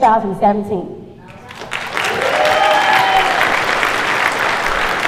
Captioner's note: cheers and applause